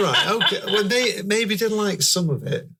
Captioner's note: laughing